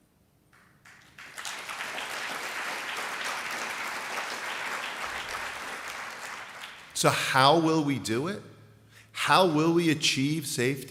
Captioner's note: applause